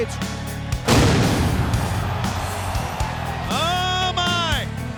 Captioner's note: fireworks popping